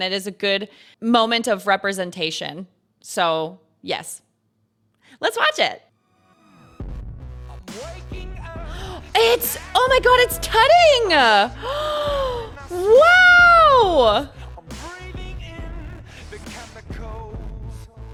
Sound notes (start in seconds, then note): 11.5 gasps